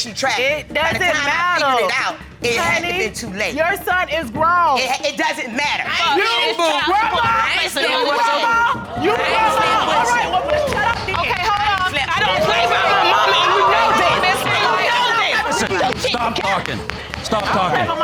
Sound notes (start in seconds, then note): 6.3 audience exclaiming; 11.9 indistinct shouting